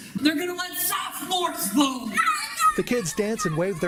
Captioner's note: children's cheering resumes